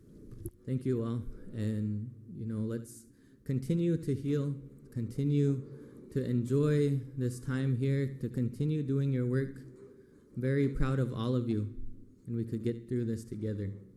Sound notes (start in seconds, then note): 1.3 foreign language